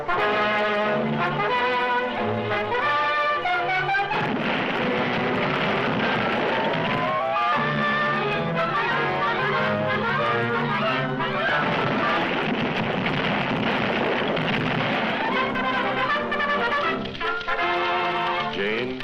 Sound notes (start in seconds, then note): 0.2 suspenseful music; 4.2 building clatters; 7.5 dramatic music continues; 11.4 building clatters; 15.5 triumphant music